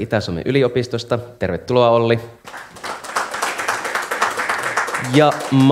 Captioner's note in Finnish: Aplodeja